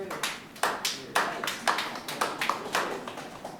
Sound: clapping

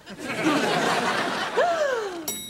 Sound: <i>gasps

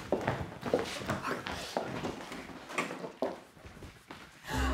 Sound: whispering

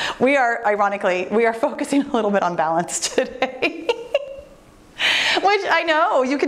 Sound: laughs

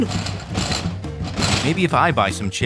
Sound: vending machine rattling

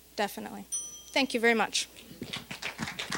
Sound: bell dinging; applause

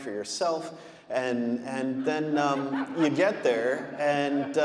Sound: audience laughing

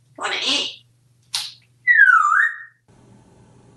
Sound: whistle

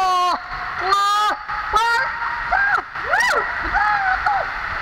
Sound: screams

